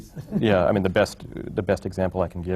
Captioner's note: laughs